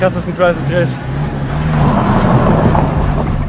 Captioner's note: scratching noises